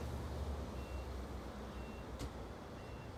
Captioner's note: monitor beeping